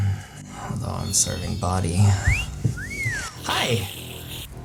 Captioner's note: whistling sound + Slurp